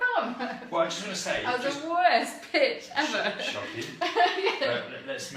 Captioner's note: laughs